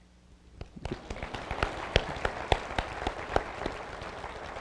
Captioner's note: applause